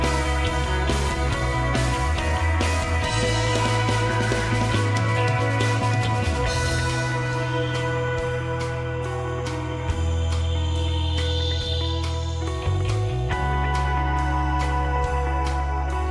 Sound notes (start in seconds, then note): none